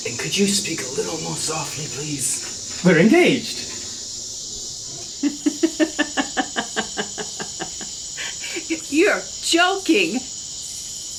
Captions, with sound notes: And could you speak a little more softly, please? We're engaged! (crickets chirping) (nervous laughter) You're joking!